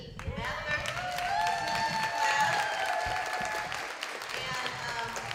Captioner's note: applause